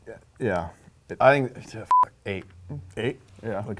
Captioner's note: beep